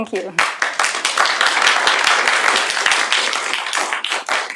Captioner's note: applause